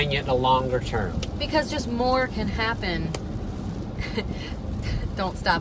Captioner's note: chuckles